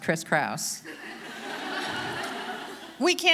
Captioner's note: audience laughing